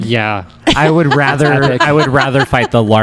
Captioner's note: laughs